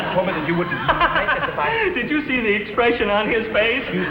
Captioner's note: laughs